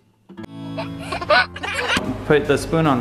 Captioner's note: giggling